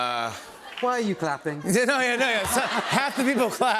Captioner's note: laughter